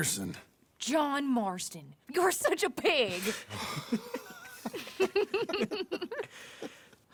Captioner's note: she laughs and Jack and John follow